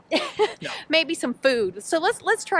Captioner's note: chuckles